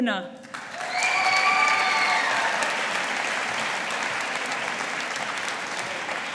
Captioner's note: audience applauding